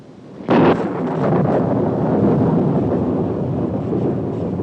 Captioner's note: loud thunderclap